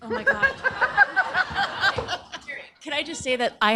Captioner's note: laughter